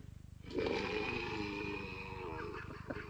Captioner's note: snoring